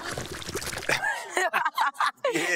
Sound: laughing

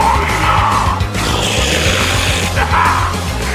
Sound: angy man forest growls

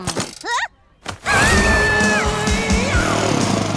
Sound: screaming

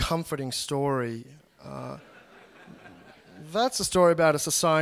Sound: laughter

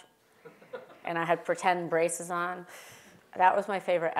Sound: laugh

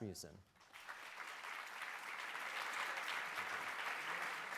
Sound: applause

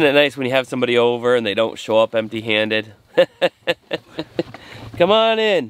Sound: laughing

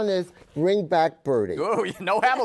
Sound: laughs

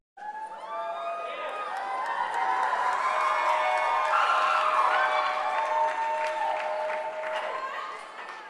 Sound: applasue

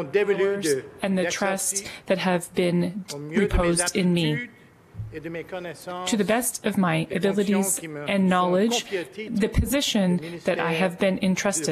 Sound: speaking french

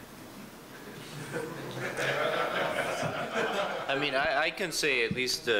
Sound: laughter

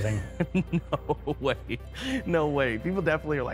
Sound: laughs

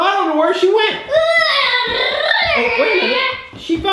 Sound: making car noises

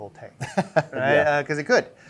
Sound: chuckle

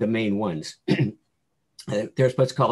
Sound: clears throat

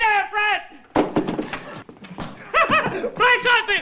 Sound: phone thuds; laughs

